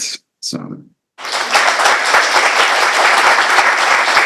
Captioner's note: applause